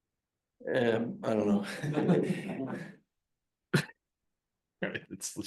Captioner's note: laughing; audience laughing